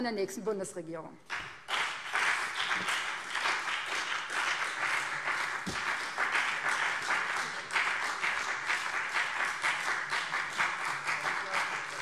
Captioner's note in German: Beifall BÜNDNIS 90/DIE GRÜNEN